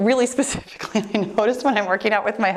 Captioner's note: laughing